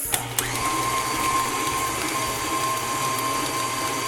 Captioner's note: whirring